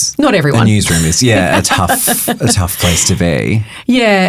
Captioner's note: chuckling